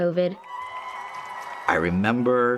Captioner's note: audience cheering